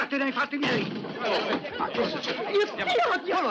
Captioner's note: clamouring